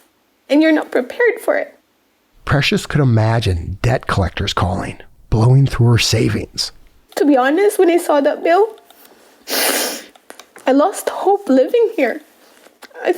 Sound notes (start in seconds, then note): 7.9 crying